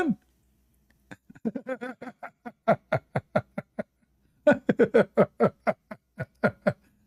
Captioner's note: Ketawa